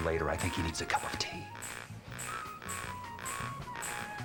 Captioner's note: buzzing